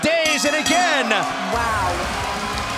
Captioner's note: bell ringing